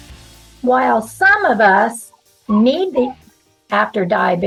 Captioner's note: puppy is whining!